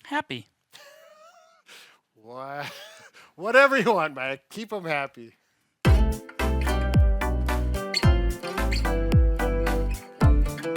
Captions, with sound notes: - Happy. (laughing) Whatever you want, Mike. Keep 'em happy. (bright upbeat music)